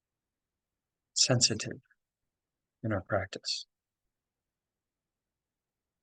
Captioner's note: pause